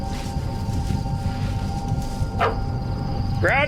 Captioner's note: leaves rustling; dog bark